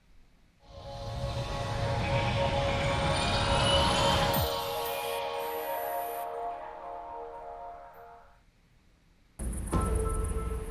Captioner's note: Techland Intro Sound Effects